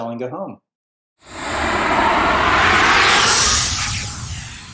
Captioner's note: air whooshing